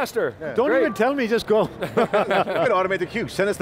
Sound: they laugh

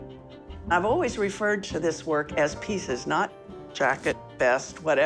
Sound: none

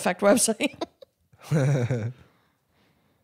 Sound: chuckling

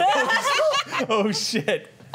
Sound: laughter

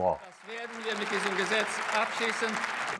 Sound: applause

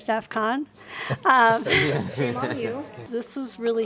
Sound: warm laughter

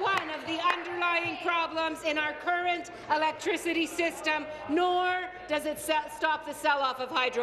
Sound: applause

